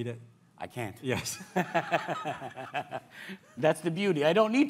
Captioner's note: laughs